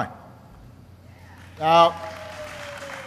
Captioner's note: applause